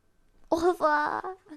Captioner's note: speaking in foreign language